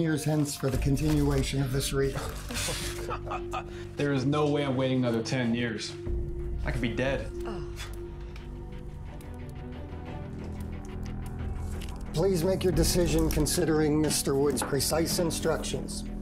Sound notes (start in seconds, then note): 2.1 Katharine scoffs; 2.4 Charlie laughs; 8.6 suspenseful music